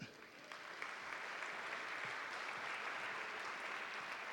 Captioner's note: audience applauding